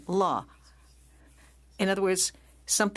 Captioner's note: speaking French